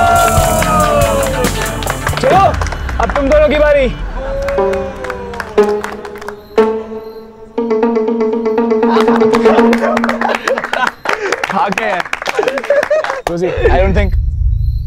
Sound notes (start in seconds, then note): 8.8 All laugh; 12.7 Laughs